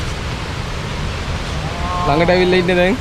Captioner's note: birds chirping/water flowing